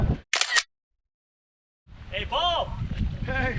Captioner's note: camera click